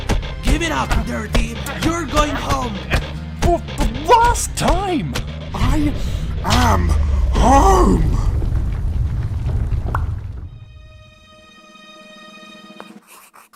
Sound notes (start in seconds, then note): 8.5 intense rumbling; 9.9 unnerving music